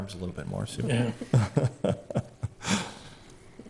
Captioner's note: laughs